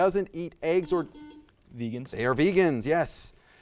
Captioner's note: buzzer buzzes